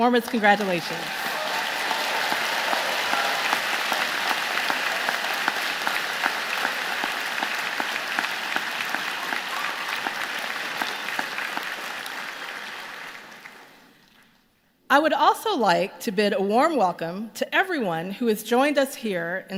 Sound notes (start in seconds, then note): 3.8 applause